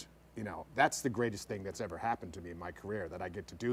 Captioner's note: none